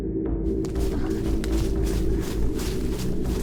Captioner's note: rustling leaves